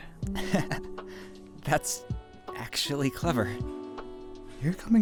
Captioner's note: laughs